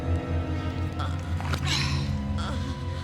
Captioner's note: Callista grunts and moans